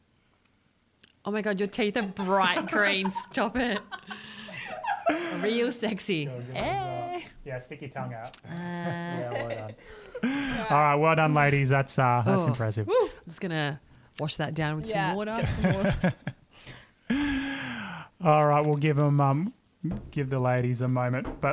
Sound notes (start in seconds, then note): 15.3 laughter